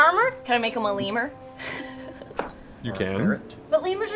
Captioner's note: laughs